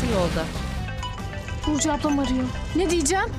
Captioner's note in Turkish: Araba sesi; Telefon zili sesi